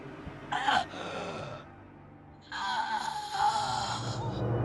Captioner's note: Pappy croaking